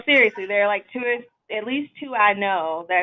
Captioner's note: laughs